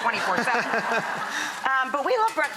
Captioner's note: audience laughter